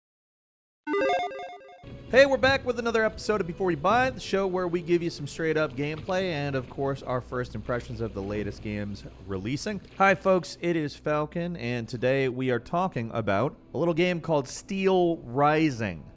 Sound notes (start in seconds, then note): 0.9 logo beeps